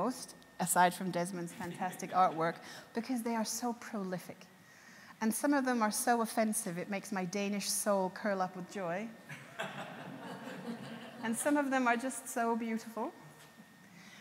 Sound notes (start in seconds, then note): 9.3 audience laughs